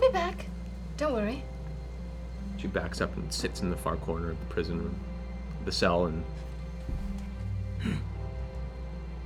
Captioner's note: huffs